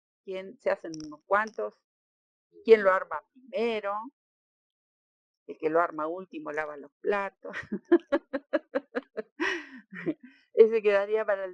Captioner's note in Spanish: risas